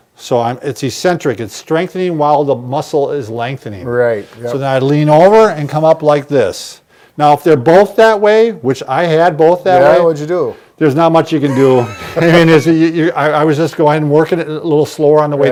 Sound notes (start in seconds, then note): 11.5 laughter